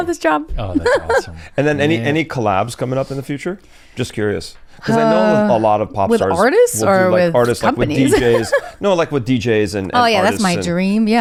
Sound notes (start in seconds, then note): 0.7 laughs; 7.9 laughs